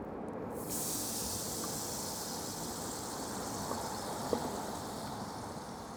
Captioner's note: mushroom paste sizzling